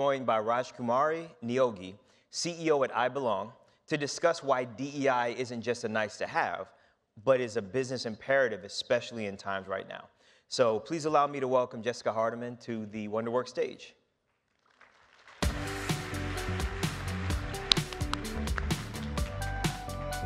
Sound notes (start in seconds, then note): 14.5 audience applauds; 15.4 gentle upbeat music